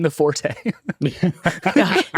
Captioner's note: all laughing